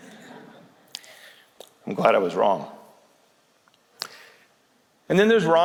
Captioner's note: laughter